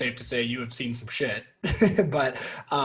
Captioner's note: chuckling